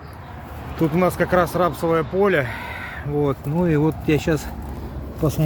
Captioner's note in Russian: вздыхает